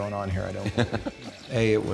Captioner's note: Fred laughs